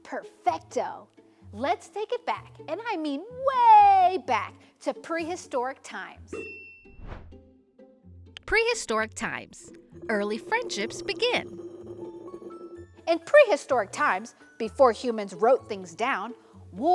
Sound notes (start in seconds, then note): 6.4 bell dings; 6.9 transition whooshes; 11.6 stones whirring